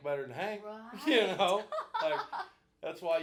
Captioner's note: laughing